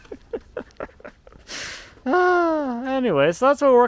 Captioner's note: laughing